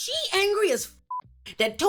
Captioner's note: beep